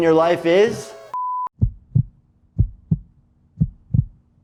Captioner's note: heart beating